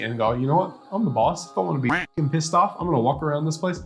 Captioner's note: quacking